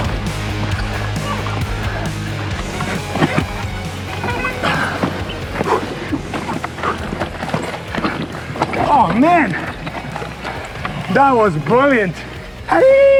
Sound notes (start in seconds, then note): 0.1 grunting; 5.1 heavy breathing